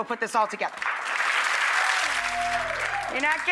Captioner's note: audience applauds